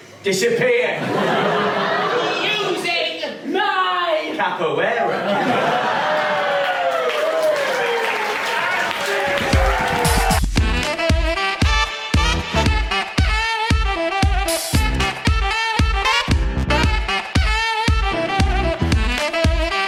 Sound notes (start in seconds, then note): 5.5 cheers and applause